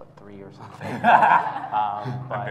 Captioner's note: laughs